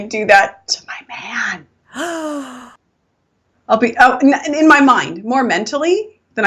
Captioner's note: whispering